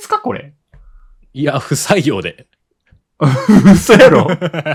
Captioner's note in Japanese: 笑い